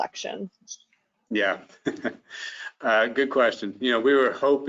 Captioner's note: chuckles